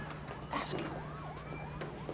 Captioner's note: whispering